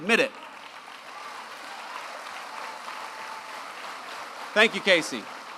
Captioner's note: applause